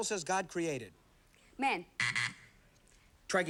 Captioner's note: buzzer